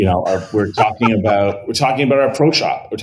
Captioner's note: laughs